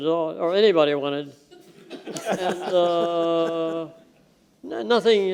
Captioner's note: laughter